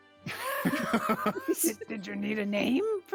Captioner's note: actors laughing